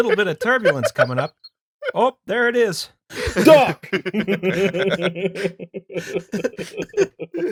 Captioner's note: cracking up instantly; minnesota voice; laughter